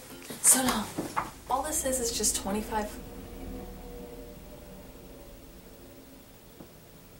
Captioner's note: loud plane noises from outside